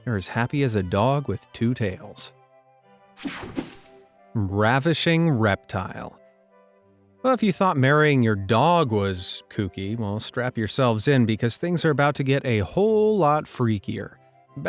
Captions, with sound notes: they're as happy as a dog with two tails! (logo whooshing) Ravishing Reptile. Well, if you thought marrying your dog was kooky, well, strap yourselves in, because things are about to get a whole lot freakier.